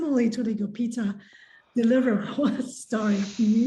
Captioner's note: laughs